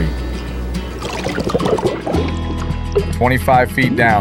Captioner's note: water bubbling